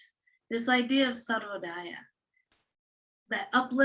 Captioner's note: non-english speech